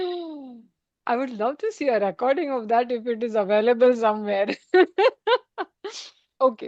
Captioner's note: laughter